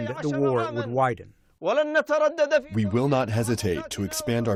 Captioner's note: through translator